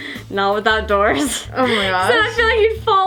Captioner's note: laughing